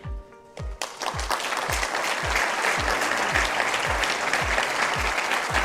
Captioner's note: crowd applauding